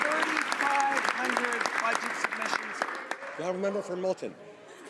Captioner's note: some Applause